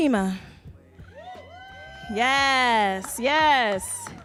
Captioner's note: audience cheering